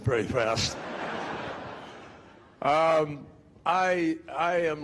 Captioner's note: crowd laughing